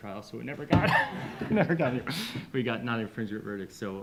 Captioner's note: everyone chuckling